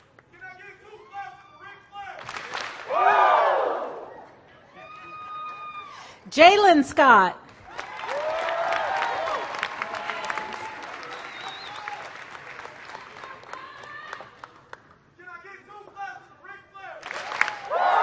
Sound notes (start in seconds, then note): 5.4 hands clapping; 7.4 applause